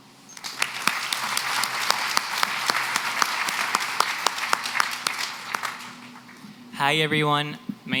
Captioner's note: applause